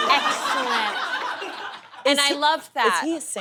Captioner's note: audience laughs